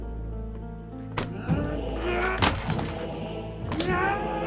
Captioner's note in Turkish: Öfke sesleri